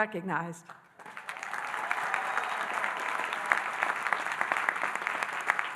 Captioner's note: audience applauding and cheering